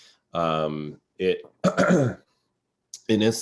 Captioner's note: clears throat